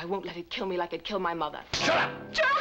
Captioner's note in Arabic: صفعة